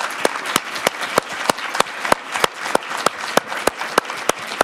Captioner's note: audience applauding